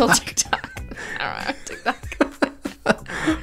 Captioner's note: laughing